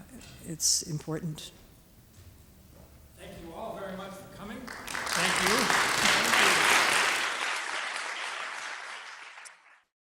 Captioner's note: applause